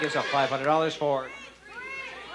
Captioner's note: audience shouting